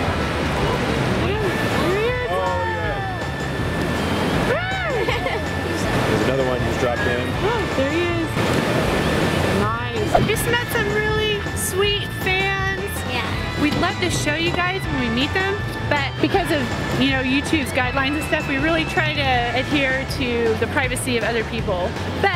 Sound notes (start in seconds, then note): 4.5 laughing